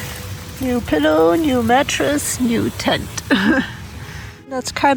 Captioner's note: laughs